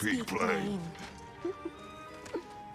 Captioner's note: laugh